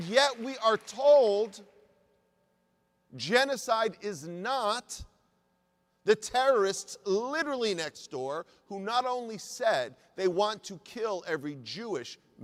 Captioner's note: applause